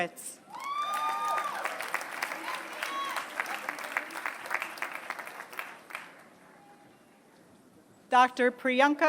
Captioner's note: applause